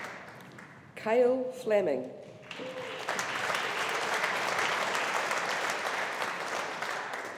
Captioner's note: audience applauding